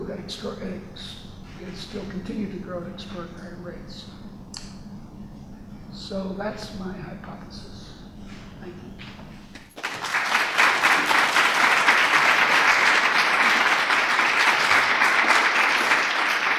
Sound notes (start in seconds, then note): 9.6 audience clapping